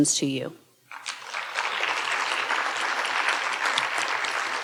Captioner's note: audience applauding